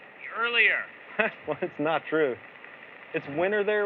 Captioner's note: chuckles